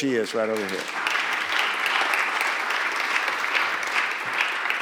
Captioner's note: applause